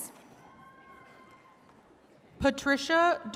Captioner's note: attendees cheering